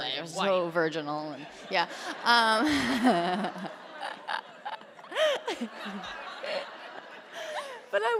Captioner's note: laughter